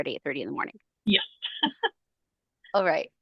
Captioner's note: laughing